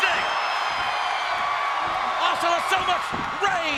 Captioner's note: audience cheers